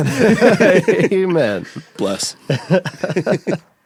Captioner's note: all laugh